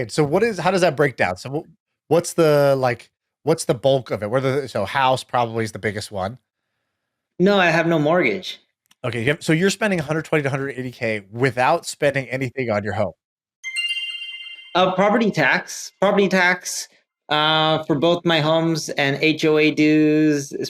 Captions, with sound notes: - So what is, how does that break down? So what's the bulk of it? Whether it's the, house probably is the biggest one. - No, I have no mortgage. - Okay, so you're spending 120 to 180K without spending anything on your home. (chime jingle) - Property tax. Property tax for both my homes and HOA dues